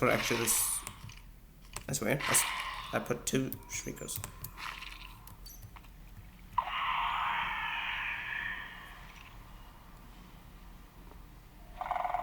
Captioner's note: Sculk Shrieker lets out a shriek and Darkness effect takes place